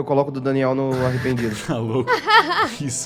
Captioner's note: laughs